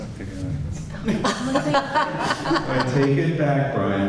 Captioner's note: laughter